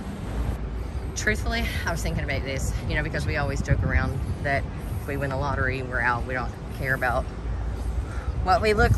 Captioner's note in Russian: переводит дыхание